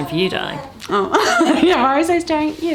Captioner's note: laughs